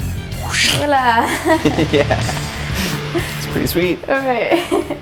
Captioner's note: laugh